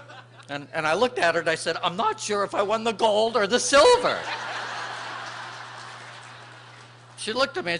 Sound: laughter

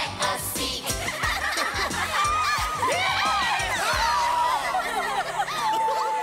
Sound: everyone laughs

